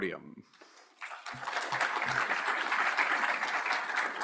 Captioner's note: audience applauds